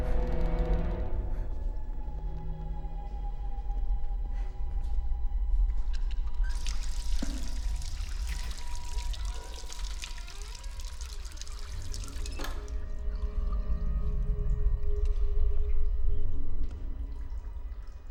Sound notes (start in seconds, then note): 6.4 faucet running; 9.3 door creaking; 12.1 faucet stops; 15.1 brooding music